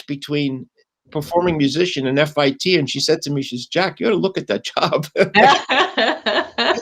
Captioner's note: laughter